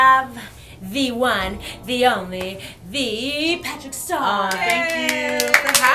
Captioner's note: cheering